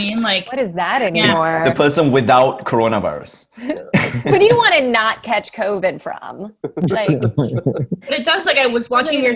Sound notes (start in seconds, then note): 6.7 Roy, Ronny & Jordan laugh